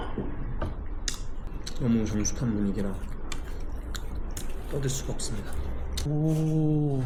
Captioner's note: instead, chewing extra loudly